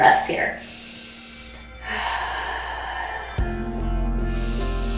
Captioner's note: breathing deeply; gentle music